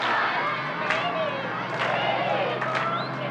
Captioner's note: high voice; high voices